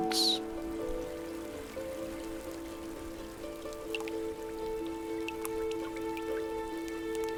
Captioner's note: light music continues; water dripping